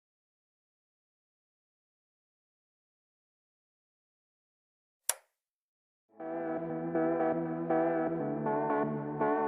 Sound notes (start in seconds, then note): 0.0 silence; 5.0 switch sound; 6.1 intro music